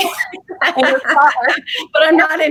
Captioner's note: laughing